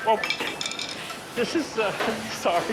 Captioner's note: rattling on floor